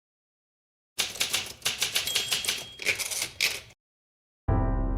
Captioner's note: typewriter clicks